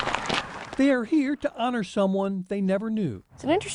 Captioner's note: quick nat, footsteps